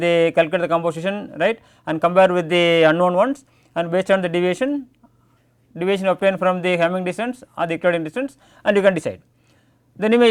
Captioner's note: click